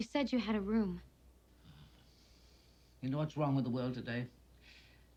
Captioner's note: exhales